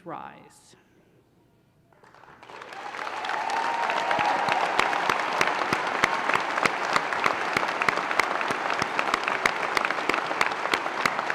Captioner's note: applause and cheers